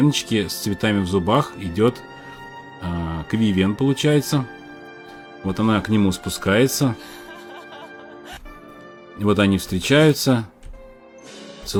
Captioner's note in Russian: смех